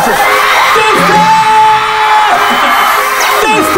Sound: scream

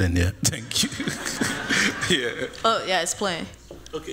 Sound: laughter

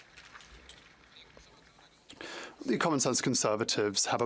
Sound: speaking French

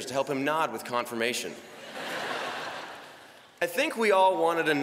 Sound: laughter

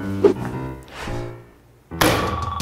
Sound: breathing

